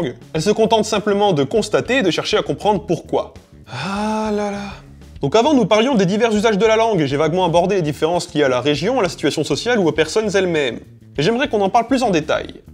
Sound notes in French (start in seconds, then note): 3.6 soupir